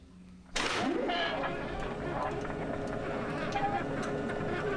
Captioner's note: gears grinding